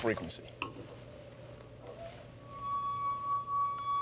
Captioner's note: tone resonates